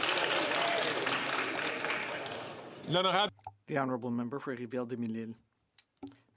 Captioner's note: some Applause